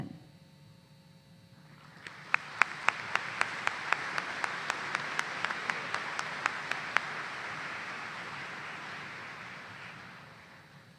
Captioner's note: applause